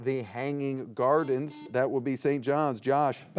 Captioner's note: buzzer beeps